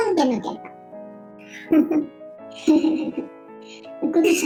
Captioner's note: laugh